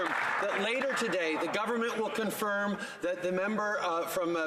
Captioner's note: some Applause